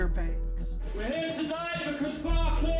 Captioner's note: man 1 speaking